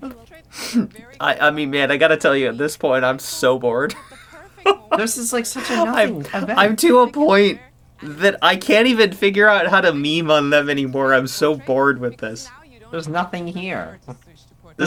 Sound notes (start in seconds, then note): 4.1 laughs